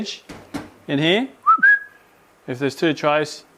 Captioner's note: switcheroo whistle